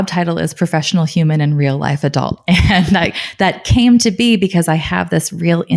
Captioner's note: laughing